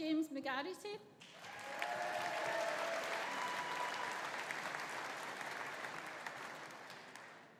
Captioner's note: audience applauding; audience cheering